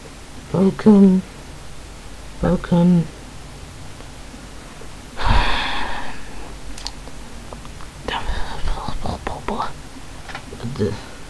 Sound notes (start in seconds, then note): 5.2 sigh